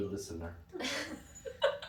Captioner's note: laughing